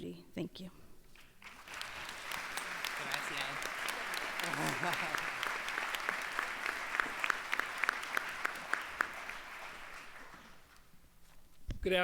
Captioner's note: applause